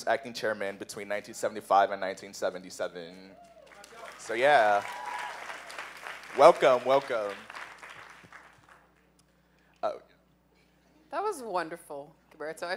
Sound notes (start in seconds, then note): 3.4 cheers; 3.5 applause